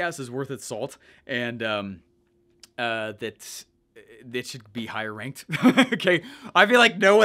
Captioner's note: chuckles